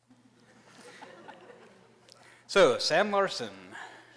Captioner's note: laughter